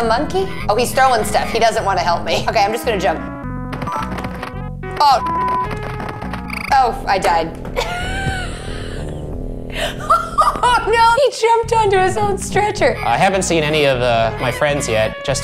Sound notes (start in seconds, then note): 7.7 laughs